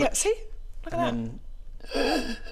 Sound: gasp

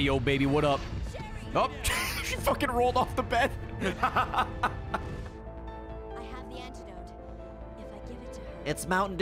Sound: laughs

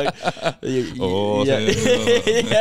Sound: laughing

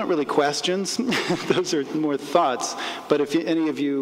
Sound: laughs

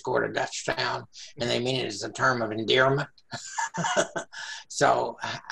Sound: laughing

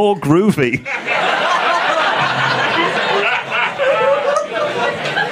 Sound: audience laughing

